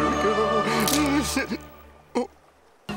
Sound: snapping

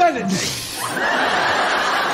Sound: spits; laughter

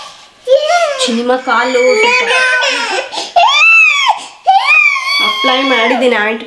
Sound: is crying

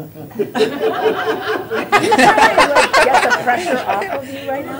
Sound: laughter

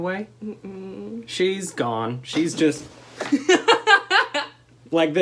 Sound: laughter

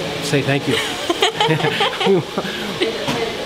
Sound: both laugh

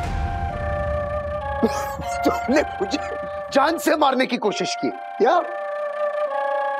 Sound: coughs

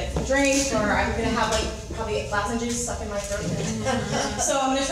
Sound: crowd laughs

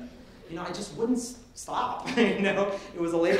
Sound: laughing

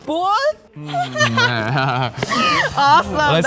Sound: laughs

